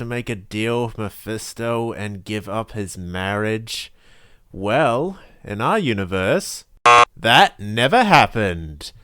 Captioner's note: buzzer sound